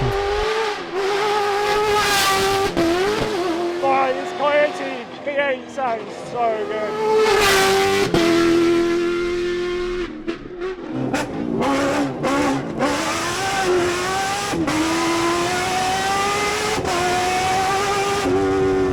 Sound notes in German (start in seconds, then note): 0.0 Motor heult auf; 7.9 Motor brüllt